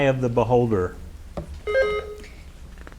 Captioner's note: buzzer beeps